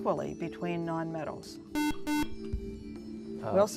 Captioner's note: beep